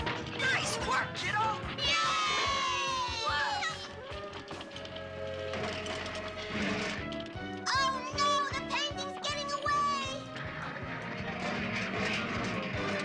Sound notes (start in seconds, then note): 1.8 all cheering